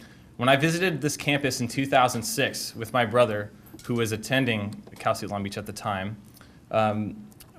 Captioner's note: none